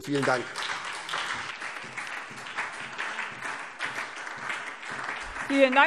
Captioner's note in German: Beifall SPD und vereinzelt DIE LINKE